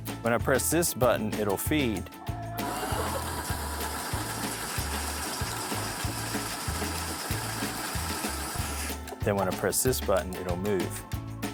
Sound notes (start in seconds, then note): 2.6 machine running